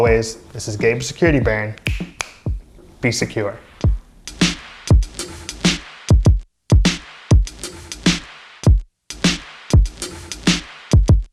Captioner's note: snaps